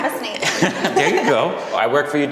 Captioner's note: all laugh